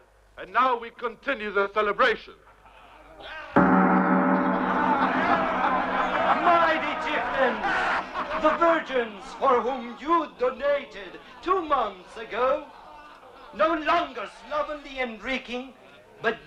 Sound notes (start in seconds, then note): 3.5 gong rings; 5.9 all cheering and laughing